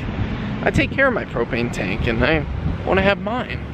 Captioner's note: none